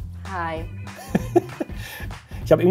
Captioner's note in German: Lässige Musik; lacht